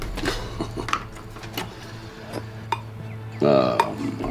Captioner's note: Kroden laughs